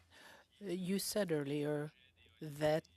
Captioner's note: speaking French